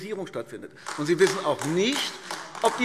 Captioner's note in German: Beifall AfD